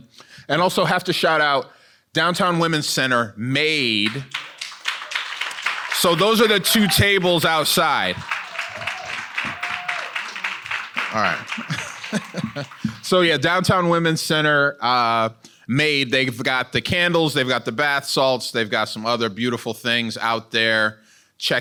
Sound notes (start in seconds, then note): 8.2 audience cheering and applauding; 12.3 laughs